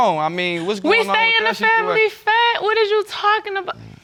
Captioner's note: none